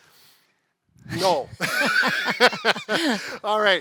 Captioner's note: both laughing